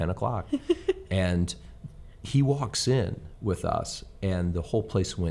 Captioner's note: host chuckles